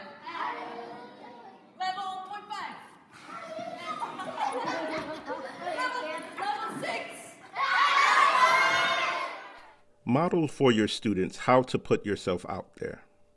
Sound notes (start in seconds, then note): 0.2 students mumbling; 3.2 students laughing and mumbling; 7.5 students screaming